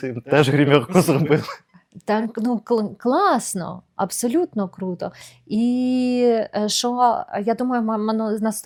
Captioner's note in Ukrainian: сміх